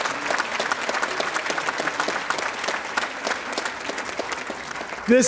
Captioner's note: audience applauding